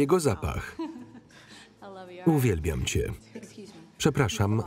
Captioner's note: laughs